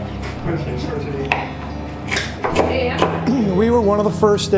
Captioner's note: chopping